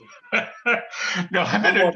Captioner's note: laughs